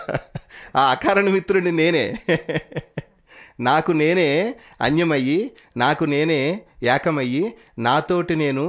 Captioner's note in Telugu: నవ్వు